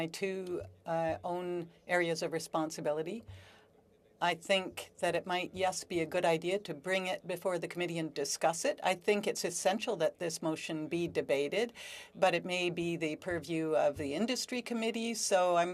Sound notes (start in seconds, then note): 3.9 speaking French